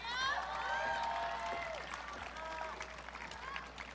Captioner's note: audience cheering